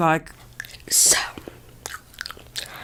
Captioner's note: chewing; whispering